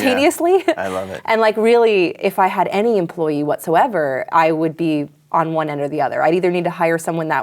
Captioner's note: chuckles